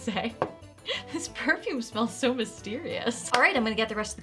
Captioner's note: chuckling